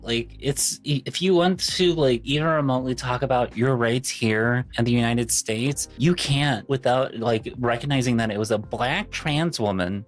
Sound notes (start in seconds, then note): none